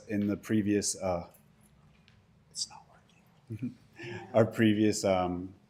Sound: laughter

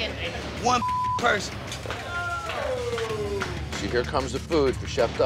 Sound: beep

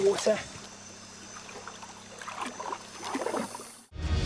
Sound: water splashing

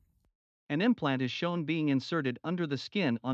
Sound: voiceover

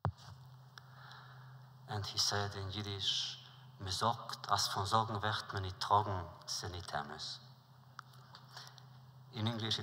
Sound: Yiddish

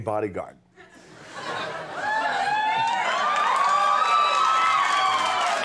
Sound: crowd cheering

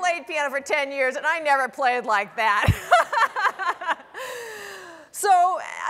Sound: laughs

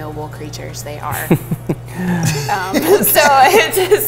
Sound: all laughing

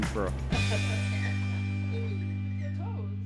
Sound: laughing

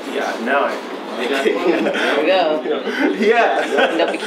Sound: laughs

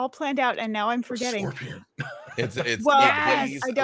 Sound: laughs

